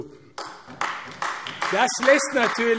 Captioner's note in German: Beifall AfD